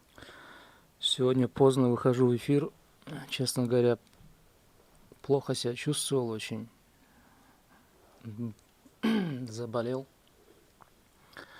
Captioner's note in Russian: откашливается